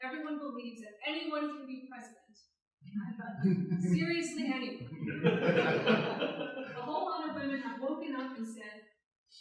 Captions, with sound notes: everyone believes that anyone can be president. Seriously, anyone! [laughter] A whole lot of women have woken up and said,